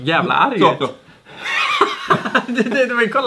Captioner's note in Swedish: skratt